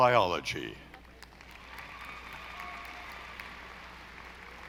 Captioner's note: audience applauding